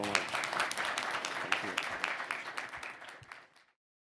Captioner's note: audience applauding